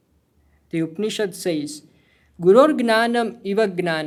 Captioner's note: speaking hindi